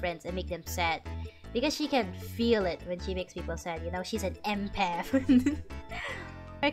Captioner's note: laughter